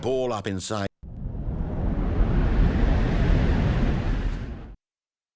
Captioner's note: air wooshing